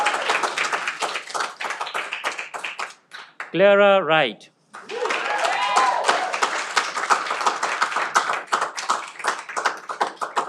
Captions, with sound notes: Claire Wright. (cheering)